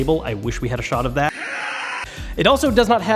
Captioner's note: roaring